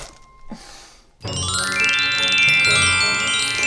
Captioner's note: tinkling bells